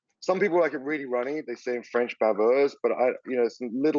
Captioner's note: speaks French word